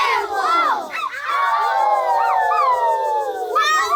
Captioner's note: howling